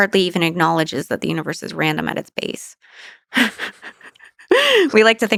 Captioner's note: laughs